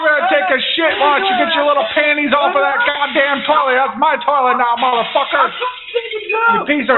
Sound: screaming

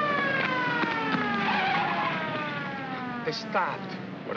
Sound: siren wailing; tires screech

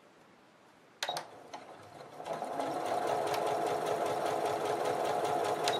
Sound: sewing machine stitching

